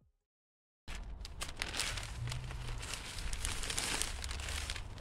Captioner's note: crinkling bag noises